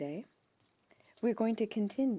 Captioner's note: speaking French